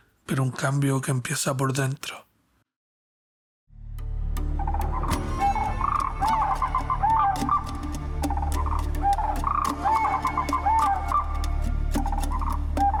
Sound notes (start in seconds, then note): 0.8 narrator speaking Spanish; 3.7 mystical music; 4.6 animals hooting